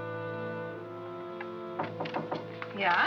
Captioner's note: knocking on door